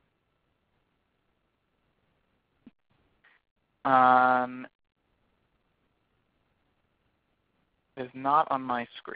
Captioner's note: silence